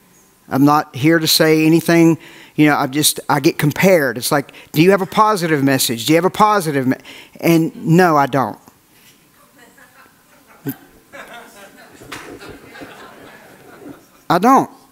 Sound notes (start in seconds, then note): 9.6 audience laughs